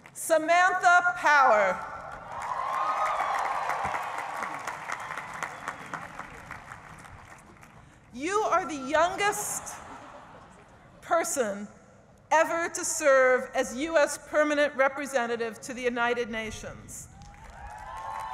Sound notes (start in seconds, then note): 2.1 cheering and applause